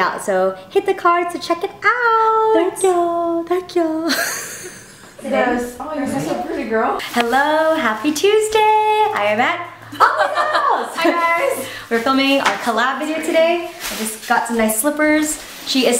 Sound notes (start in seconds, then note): 4.0 laughs; 9.8 laughs